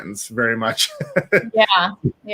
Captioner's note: laughs